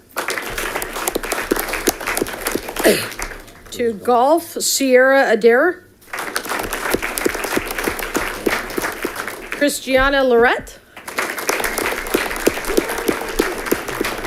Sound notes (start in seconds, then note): 0.0 audience clapping; 6.0 audience clapping